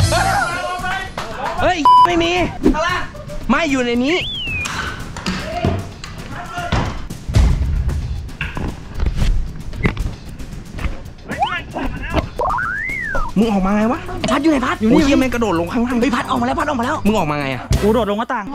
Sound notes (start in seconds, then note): 0.2 laughs; 7.3 slammed; 11.4 pat; 17.7 pat